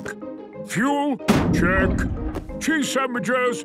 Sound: bangs

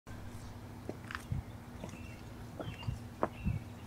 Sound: birds chirping

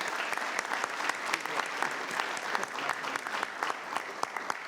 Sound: audience clapping

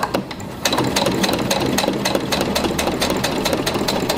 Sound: machine whirring

